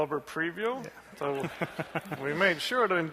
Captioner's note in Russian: смех